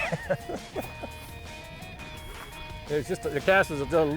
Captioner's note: laughs